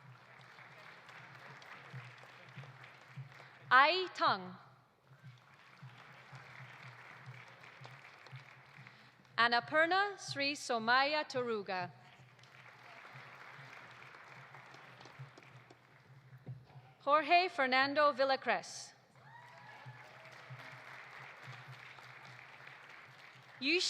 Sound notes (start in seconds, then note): 0.0 audience applauding; 5.1 audience applauding; 12.0 audience applauding; 19.1 audience applauding; 19.2 audience cheering